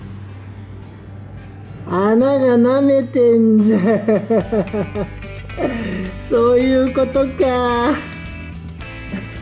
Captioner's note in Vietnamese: cười